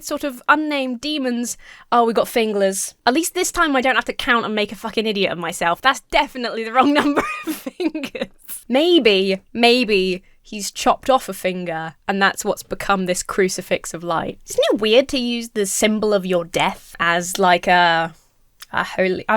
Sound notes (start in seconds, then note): 6.8 laughs